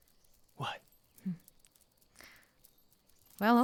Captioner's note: dog claws clicking